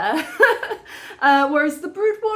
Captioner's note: laughing